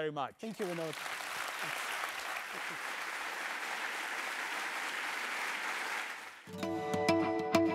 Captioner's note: applause